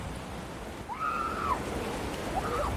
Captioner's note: excited screaming